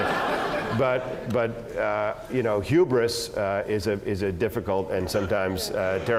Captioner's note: laugh